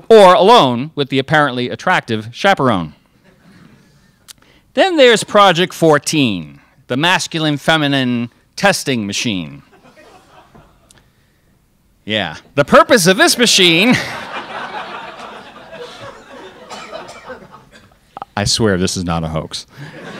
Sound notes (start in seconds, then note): 9.7 crowd laughs; 13.8 crowd laughs